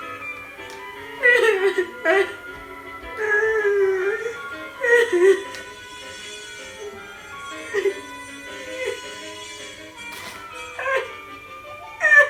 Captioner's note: sobbing